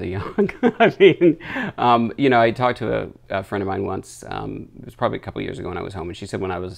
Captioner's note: laughs